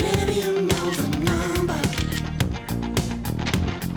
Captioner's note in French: clic d'obturateur